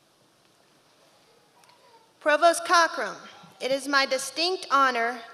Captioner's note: none